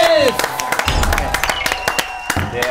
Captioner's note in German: Jubel